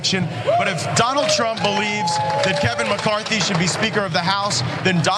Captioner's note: applause